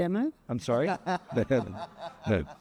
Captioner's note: laughing